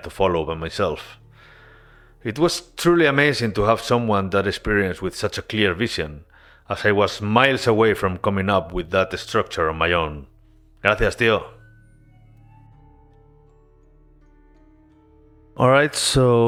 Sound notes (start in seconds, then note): 14.5 in Spanish